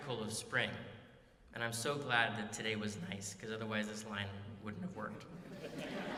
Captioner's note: laughter